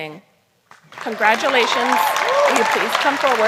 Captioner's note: applause